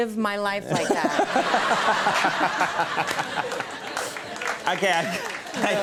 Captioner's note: Conan and audience laughing